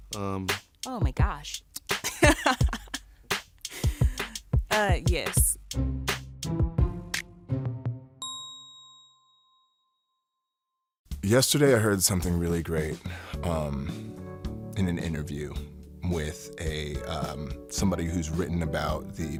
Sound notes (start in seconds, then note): 2.1 laughs; 5.9 playful music